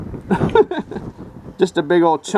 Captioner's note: laughing